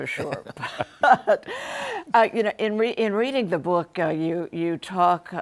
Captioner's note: both laugh